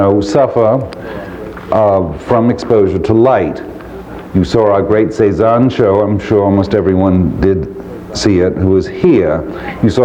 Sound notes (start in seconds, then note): none